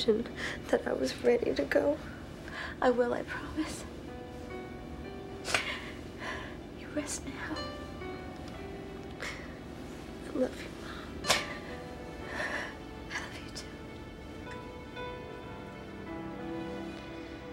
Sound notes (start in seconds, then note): 5.1 catches breath; 9.1 whispers; 12.2 catches breath; 12.6 whispers